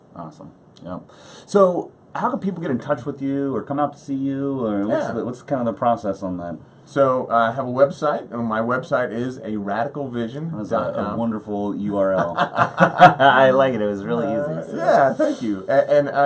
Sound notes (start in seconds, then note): 12.2 laughs